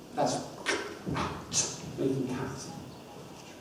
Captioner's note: ck sound